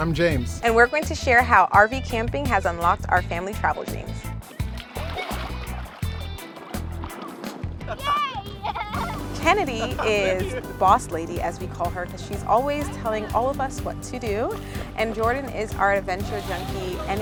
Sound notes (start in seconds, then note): 4.4 water splashing; 4.9 children laughing; 7.6 upbeat music; 7.8 family laughing